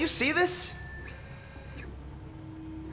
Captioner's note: turret Rotates